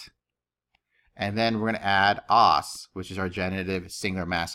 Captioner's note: speaking greek; speaking greek